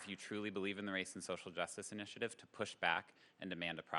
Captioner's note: applause